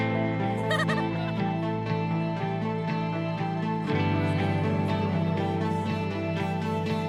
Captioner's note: laughing; chattering